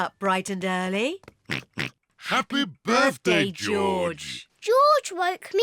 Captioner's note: oinks